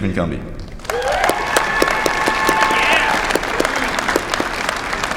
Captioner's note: applause